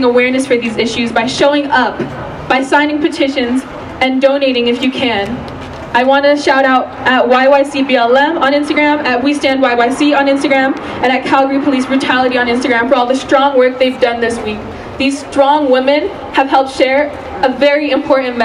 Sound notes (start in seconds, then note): none